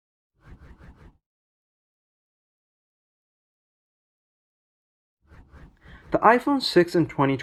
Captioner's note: transition swooshes